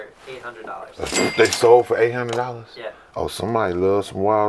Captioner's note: cash register dinging